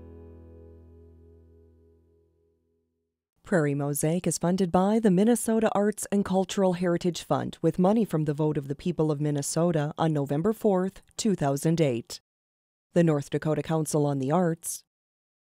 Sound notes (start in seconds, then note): 3.5 voiceover